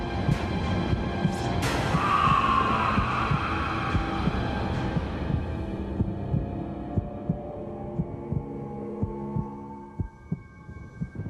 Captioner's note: screams